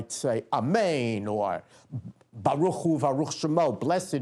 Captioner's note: non-english speech